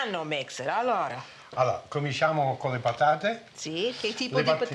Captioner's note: speaking Italian